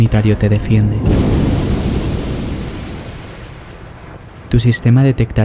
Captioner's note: collision